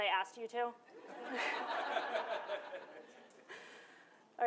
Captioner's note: laughter